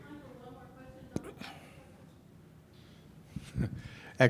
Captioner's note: muffled without mic